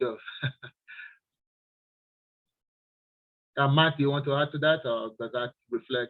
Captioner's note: chuckles